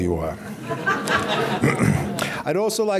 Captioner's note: audience laughing